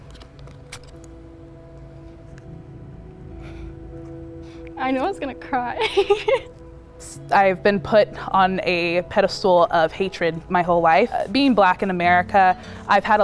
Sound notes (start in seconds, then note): 1.1 soft music; 5.8 chuckles